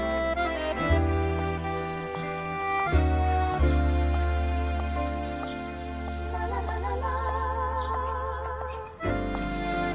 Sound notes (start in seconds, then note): 1.2 birds chirping; 7.0 horse hooves